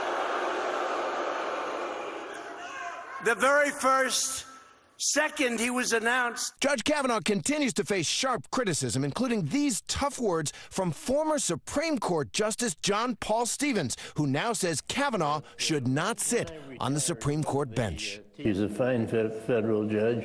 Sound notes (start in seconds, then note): 3.1 audience reacts